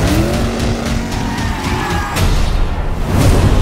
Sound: tires squealing

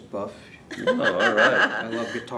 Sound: laughs

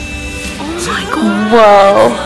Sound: whispers

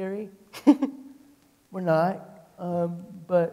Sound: chuckling

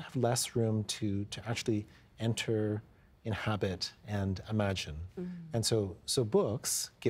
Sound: none

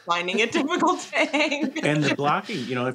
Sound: laughs

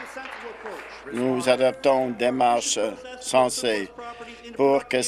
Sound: applause

